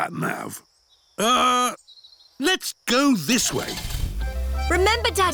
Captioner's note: starts engine